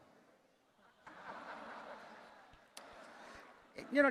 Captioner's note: attendees laughing